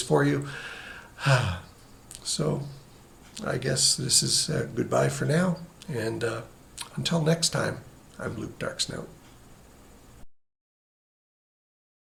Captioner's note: sighs